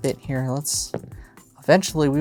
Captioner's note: dice rolling